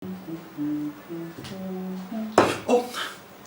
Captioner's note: humming